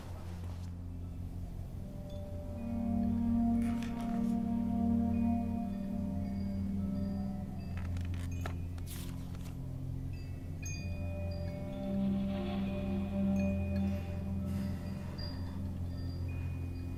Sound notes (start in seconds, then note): 7.3 wind chimes outside the window; 11.0 soft, deep, flute music plays